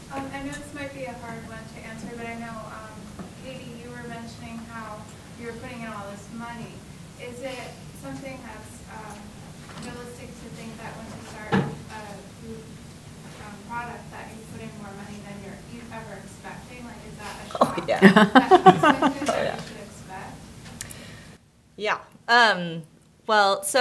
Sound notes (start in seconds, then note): 17.6 laughter